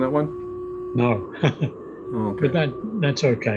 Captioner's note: chuckles